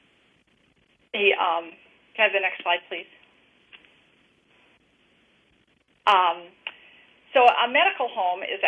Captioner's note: pause